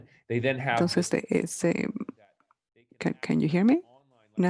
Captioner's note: speaking in foreign language